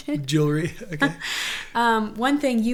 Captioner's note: laughs